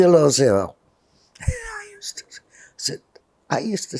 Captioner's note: whispering